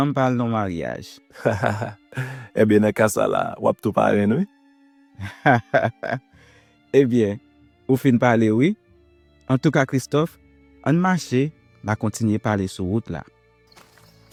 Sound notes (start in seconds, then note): 1.3 laughing; 5.2 laughing